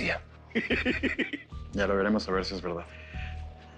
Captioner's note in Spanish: Risas